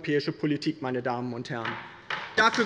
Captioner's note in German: Beifall bei der LINKEN